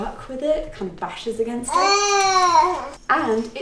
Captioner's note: cooing